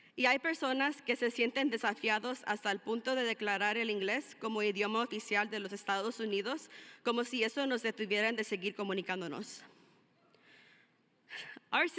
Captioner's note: speaking in spanish